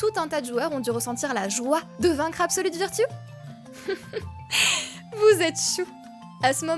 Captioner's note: laughing